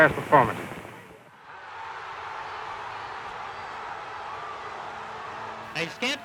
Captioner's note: crowd cheers